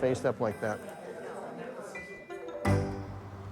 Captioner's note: chatter in the background